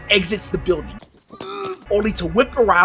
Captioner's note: gags